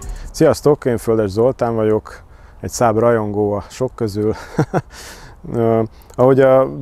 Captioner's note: chuckles